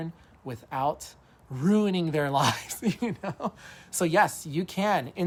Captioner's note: laughs